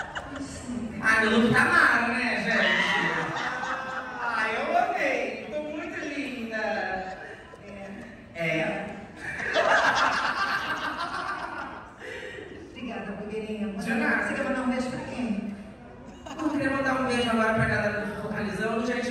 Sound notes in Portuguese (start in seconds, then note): 3.6 risos; 9.2 risos